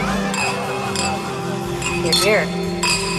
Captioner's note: glasses clinking